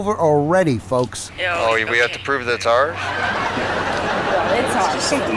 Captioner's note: audience laughing